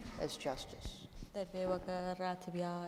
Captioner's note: speaking kurdish